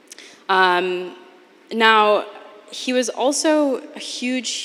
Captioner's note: none